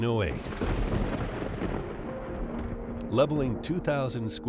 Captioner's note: explosion booming